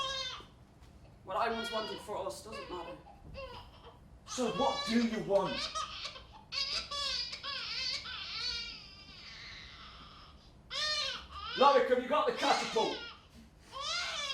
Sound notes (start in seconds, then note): 4.2 baby crying